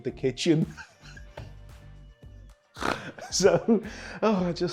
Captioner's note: laughs